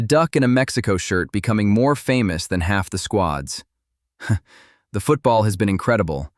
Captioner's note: chuckles